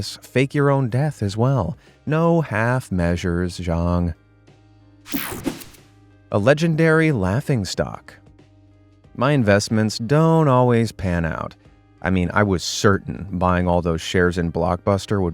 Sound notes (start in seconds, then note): 5.1 graphic whooshing